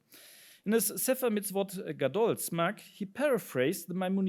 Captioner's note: speaks in foreign language